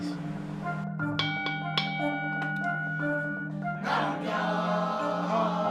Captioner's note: bell rings